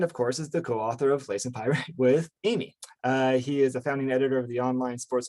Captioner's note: laughs